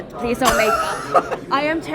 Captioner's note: laughing